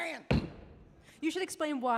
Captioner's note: foot stomping